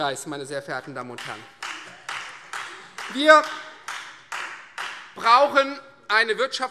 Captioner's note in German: Beifall Freie Demokraten